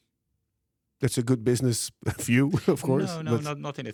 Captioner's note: laughs